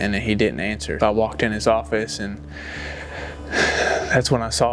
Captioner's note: sighs